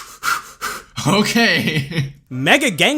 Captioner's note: breathing heavily